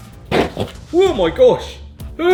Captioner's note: flame roaring